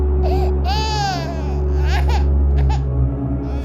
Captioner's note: baby whining